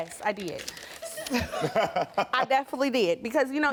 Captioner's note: Karamo chuckles